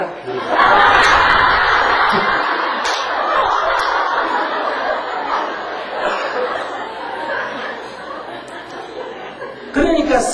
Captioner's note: audience Laughter